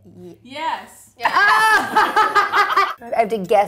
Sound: laughs

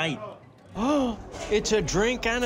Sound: gasps

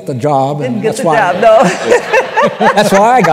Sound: laughter

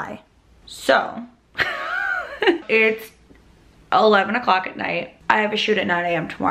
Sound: laughs

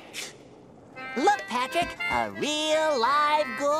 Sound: none

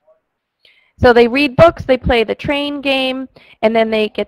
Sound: voiceover

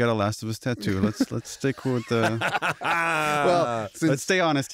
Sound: laughter

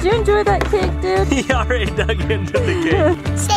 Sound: laughing

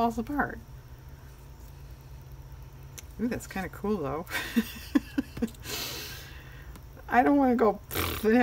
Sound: laughs

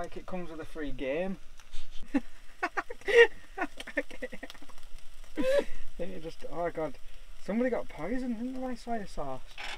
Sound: laughter

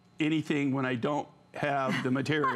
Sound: laughter

